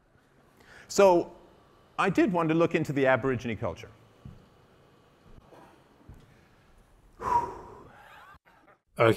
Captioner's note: breathes out